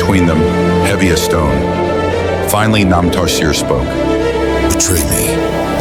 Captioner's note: warning, voice rumbling